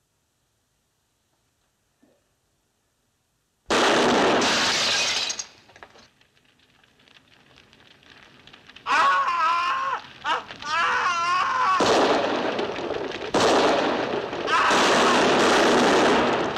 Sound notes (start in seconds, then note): 3.7 gunshot; 4.4 glass shatters; 8.8 Matthew screaming; 14.5 gunshots